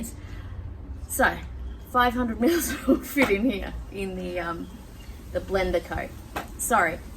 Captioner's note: laughing at self